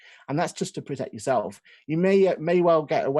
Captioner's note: none